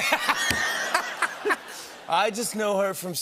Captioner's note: laughter